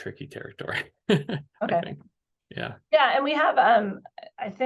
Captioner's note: laughs